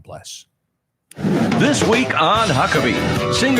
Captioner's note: wind whooshing